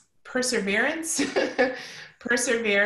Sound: laughing

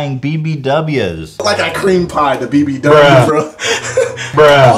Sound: laughs

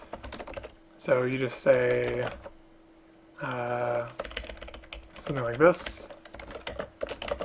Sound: typing

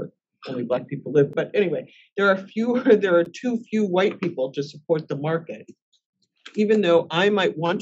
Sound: laugh

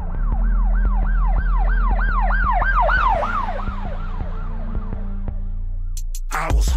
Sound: police sirens

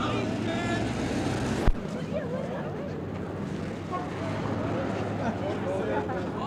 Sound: street noise

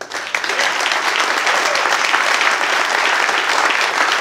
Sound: applause

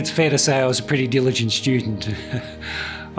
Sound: laughs

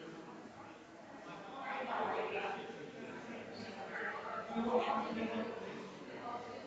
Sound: people chattering distantly continues

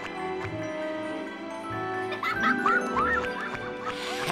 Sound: laughing

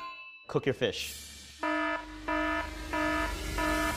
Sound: warning alarm sounds

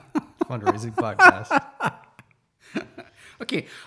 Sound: laughs

